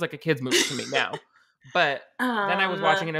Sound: laughing

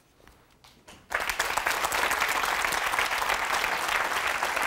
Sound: audience applauding

